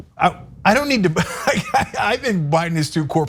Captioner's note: laugh